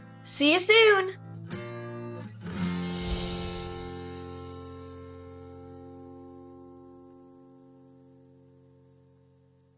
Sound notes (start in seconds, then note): 2.8 light music continues; 2.9 chimes ringing